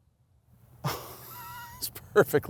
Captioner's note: chuckles